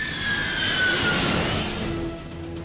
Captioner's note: engines screeching